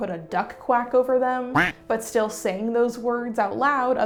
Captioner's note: quack